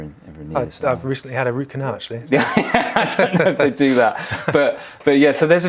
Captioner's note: laughs